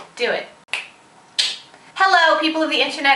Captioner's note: snap, snap